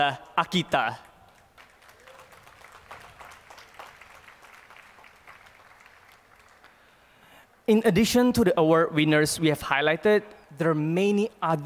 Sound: applause

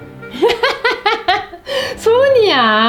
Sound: laugh

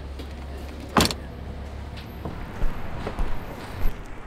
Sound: door slamming

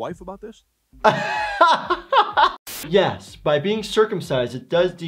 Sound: laughing

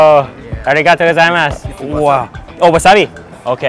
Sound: none

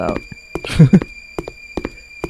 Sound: snickers

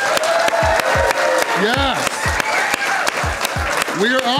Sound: crowd clapping and cheering

